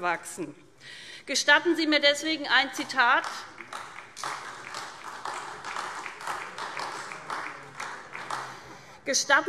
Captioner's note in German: Beifall SPD